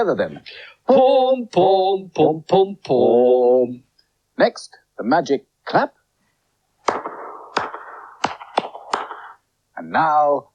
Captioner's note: singing; claps